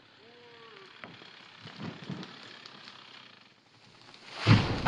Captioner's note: tree creaking